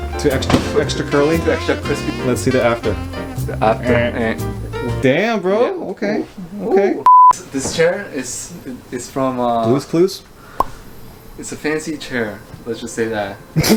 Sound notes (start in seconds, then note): 4.0 machine sound